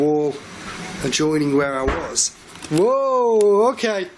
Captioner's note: loud banging